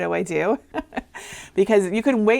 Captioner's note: laughing